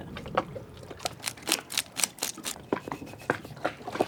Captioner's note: scraping